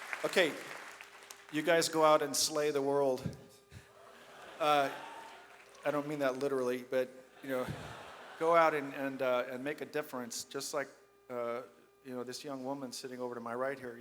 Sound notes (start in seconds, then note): 4.0 audience laughs